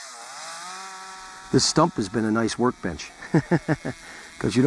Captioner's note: chuckles